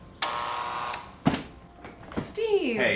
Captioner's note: buzzer